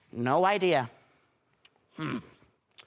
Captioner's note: silence